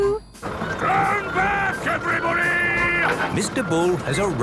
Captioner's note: shouting